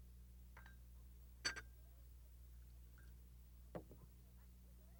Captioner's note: tea cups clatter